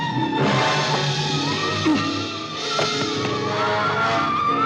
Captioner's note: suspenseful music; grunts; gun firing